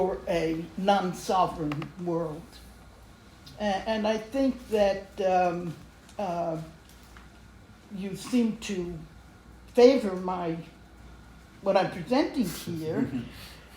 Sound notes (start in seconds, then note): none